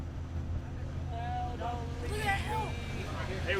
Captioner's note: boys chattering